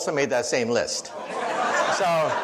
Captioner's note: audience laughs